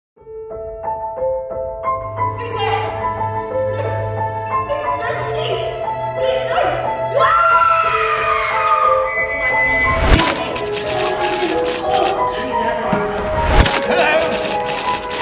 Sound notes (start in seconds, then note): 0.0 suspenseful piano music; 7.1 scream; 8.9 train whistle